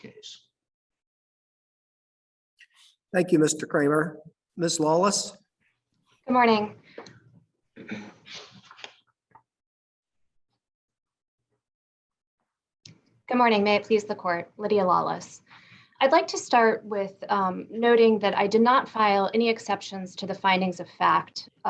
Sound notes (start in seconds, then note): 6.6 long pause